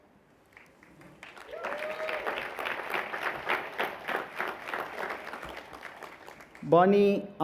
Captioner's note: applause